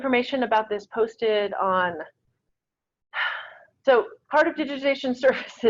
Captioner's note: sighs